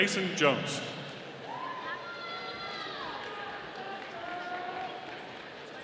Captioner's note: audience applauding